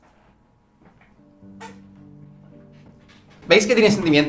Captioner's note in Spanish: silla quejándose